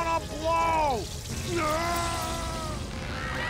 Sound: screaming

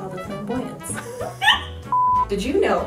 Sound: giggle

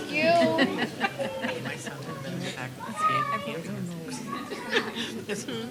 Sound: indistinct chatter

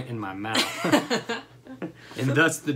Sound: laughter

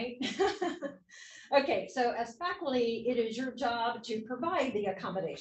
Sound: laugh

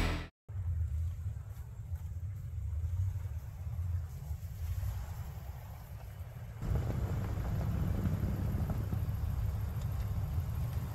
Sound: wind howling

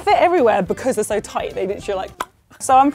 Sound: click

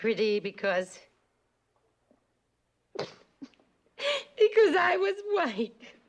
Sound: cries

